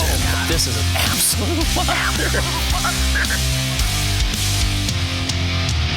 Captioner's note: voiceover